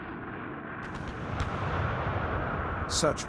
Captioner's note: artillery fire